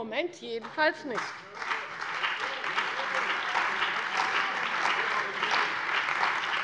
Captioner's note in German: Lebhafter Beifall bei der CDU und dem BÜNDNIS 90/DIE GRÜNEN